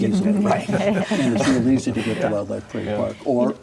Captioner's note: people laughing